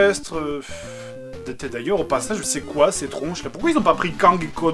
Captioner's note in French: Soupir